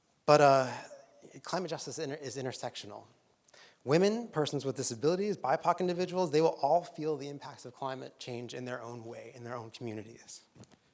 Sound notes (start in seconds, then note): none